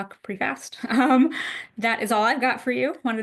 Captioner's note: chuckles